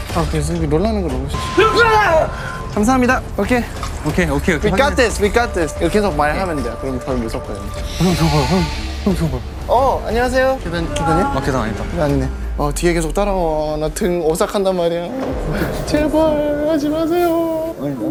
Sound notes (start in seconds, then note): 1.7 screaming